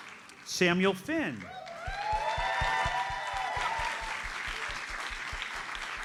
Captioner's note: audience cheers and applauds